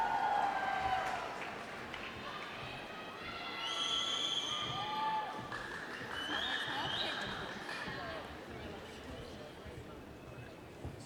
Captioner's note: cheering